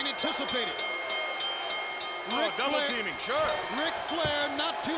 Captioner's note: bell ringing